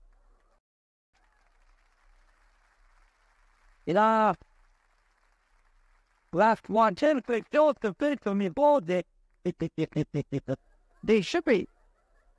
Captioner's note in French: rire